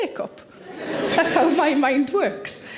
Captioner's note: audience laughs quietly